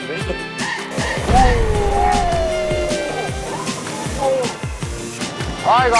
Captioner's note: the powerful sound of fireworks informs them that they're about to take off